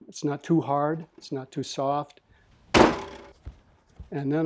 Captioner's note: loud splat!